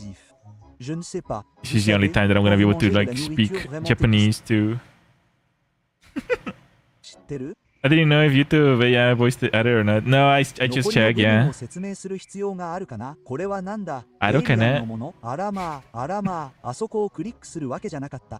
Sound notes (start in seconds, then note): 6.1 laughter